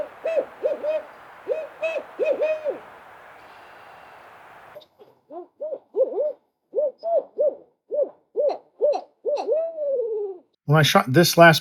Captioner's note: owl hooting